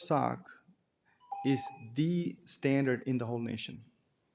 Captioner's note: timer tone